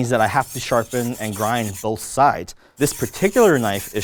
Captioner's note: knife scrapes